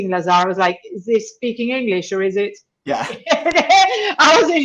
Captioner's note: chuckles